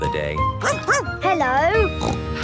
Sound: barking; snorting

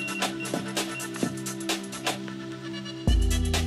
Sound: rod beeping

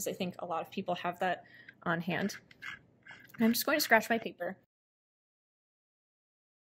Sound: scratching sounds

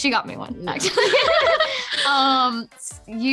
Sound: laughing

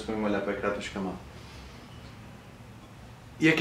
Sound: awkward silence

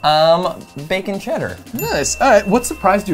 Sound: bell dings

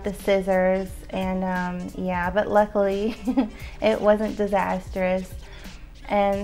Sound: chuckles

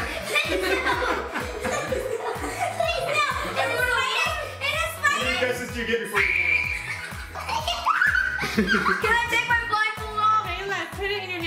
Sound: screaming

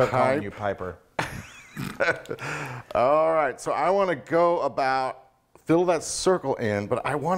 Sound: laugh

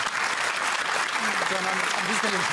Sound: applause

